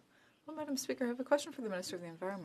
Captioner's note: speaking in French